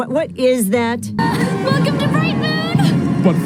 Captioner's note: crowd cheers